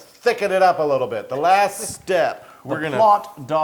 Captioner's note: laugh